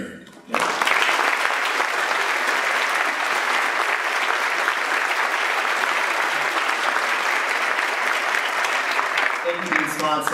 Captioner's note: applause